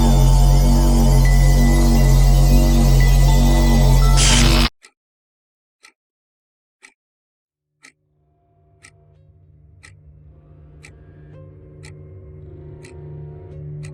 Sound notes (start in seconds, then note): 0.0 eerie dramatic music continues; 4.9 clock ticking; 8.2 eerie dramatic music